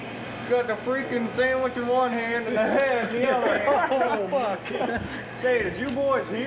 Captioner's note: all laugh